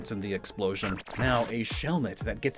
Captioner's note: glitch SFX